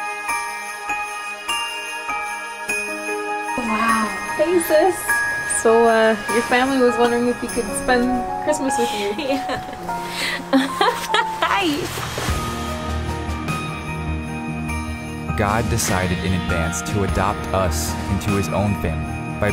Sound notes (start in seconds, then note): 10.2 laughing